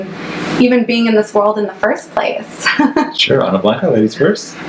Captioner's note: laughs